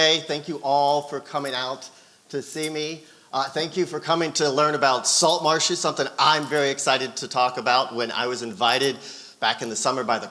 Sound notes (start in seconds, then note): none